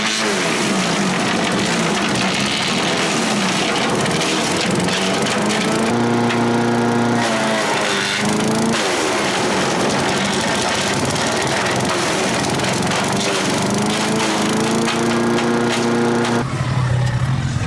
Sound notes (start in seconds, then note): 6.1 motor vibrating; 7.4 buzzing; 16.7 whooshing